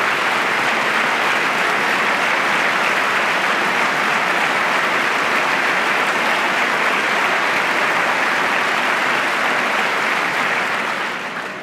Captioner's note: applause